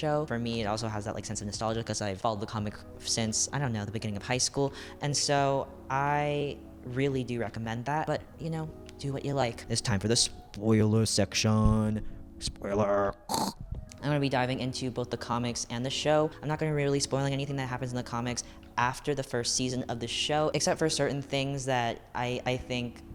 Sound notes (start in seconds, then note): 11.7 deep silly voice